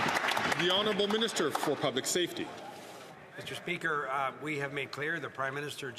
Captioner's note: some Applause